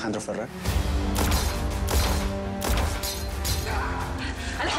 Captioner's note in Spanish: Disparos